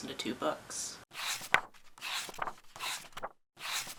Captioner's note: pages turning